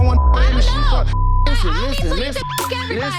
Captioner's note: beep; people yelling at once; beep